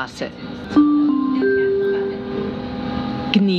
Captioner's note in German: Gong